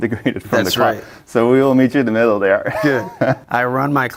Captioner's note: chuckling